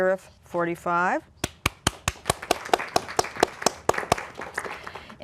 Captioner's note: applause